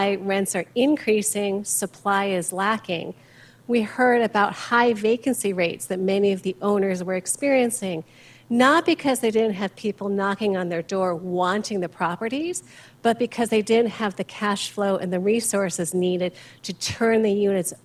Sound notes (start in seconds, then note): none